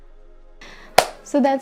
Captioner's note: clap